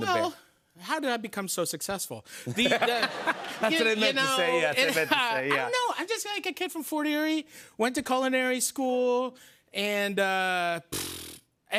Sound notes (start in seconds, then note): 2.5 laughter